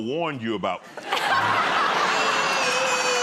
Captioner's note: laughter